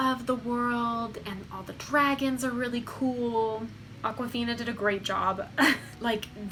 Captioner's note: chuckles